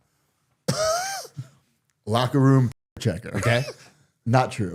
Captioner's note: laughs